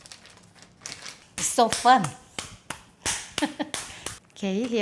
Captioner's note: laughing